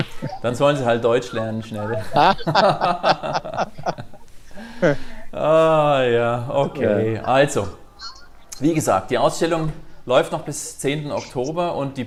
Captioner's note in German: Glächter